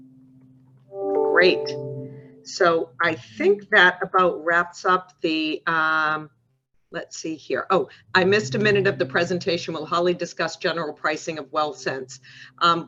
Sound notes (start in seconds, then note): 0.9 electronic notification ringing